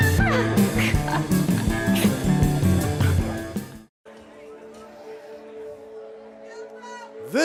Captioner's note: laughs